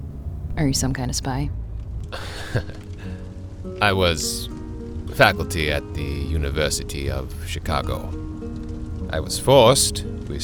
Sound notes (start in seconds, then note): 2.1 Albert chuckles; 8.1 music, distant sound of burning village